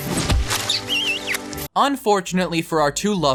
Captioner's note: kissing